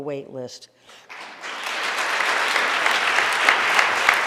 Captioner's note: audience applauding